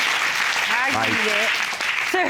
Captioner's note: audience applauding